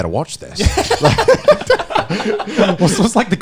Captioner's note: all laughing